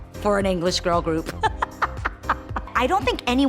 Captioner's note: laughs